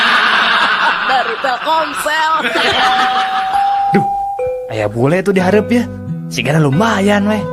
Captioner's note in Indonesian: tertawa